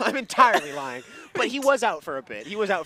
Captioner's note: laughs